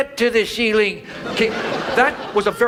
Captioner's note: audience laughs